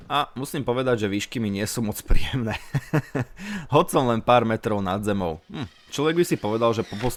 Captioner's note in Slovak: smiech